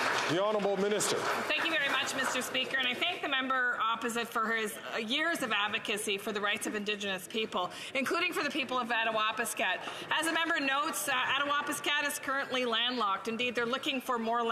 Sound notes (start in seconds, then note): 3.4 some Applause